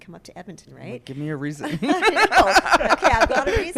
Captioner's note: laughs